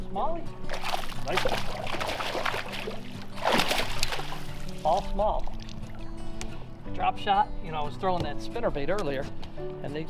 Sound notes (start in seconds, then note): 0.6 water splashes